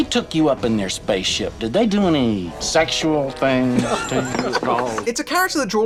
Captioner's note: laughter